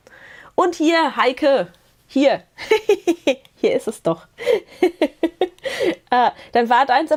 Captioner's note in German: Gelächter